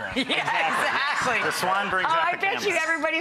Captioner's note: laughing